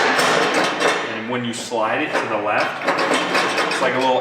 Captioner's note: metal clanging; metal clangs